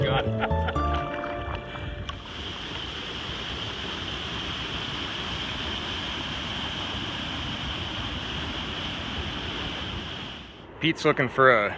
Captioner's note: laughing; water rushing